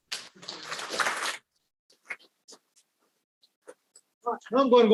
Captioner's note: audience applauding